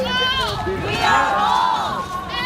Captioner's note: crowd Repeating